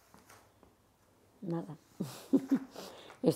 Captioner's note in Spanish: ríe